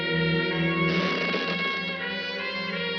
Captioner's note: window creaks